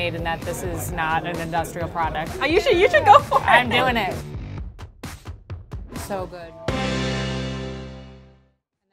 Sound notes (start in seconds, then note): 2.4 laughing; 4.8 funky dance music; 5.9 bright music